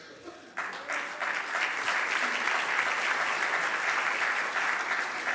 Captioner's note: audience applauding